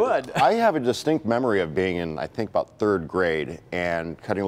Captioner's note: laughter